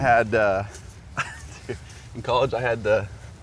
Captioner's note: laughs